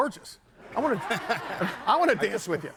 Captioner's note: crowd laughing